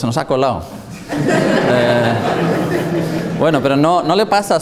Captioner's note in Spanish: risas